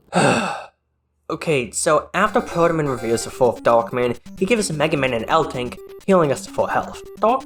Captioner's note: sighs, sitting on the little soft chair; sigh